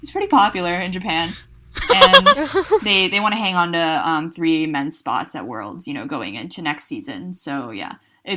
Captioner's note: hosts laugh